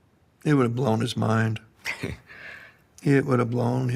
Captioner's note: chuckles